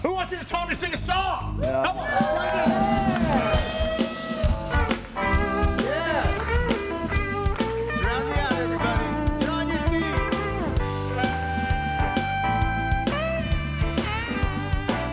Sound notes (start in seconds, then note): 1.6 audience cheering; 4.4 cool music